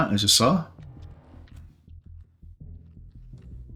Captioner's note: silence